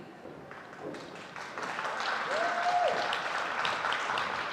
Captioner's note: audience applauding